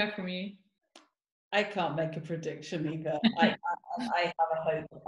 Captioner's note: laughing